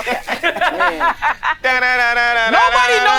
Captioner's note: people laughing